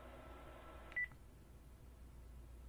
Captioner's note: phone beeps